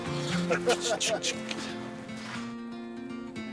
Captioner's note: laughter; clicks